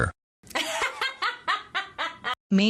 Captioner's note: laughing